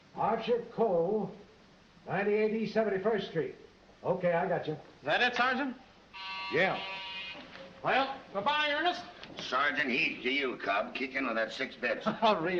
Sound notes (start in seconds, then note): 6.1 buzzer rings